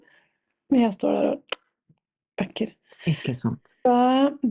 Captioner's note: snap sound